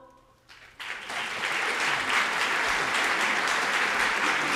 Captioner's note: audience applauding